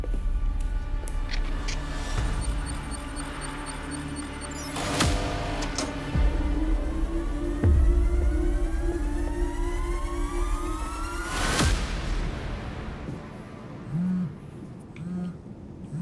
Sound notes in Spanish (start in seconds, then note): 5.1 Pitidos